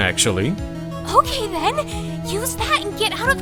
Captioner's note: whispering